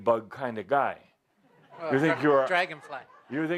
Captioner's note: laughter